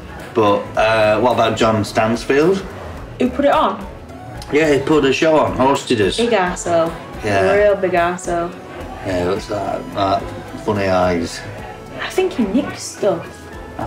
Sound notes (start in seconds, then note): none